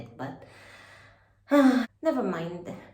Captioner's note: sigh